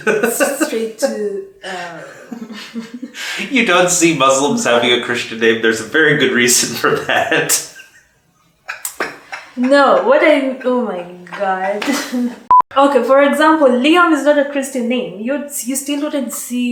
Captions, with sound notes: You don't see Muslims having a Christian name, there's a very good reason for that. [Laughs] No, what I- oh my god. Okay, for example Leon is not a Christian name. You still wouldn't see